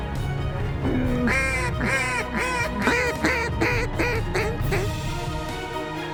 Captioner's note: duck calls